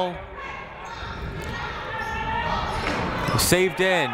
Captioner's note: people shouting in the crowd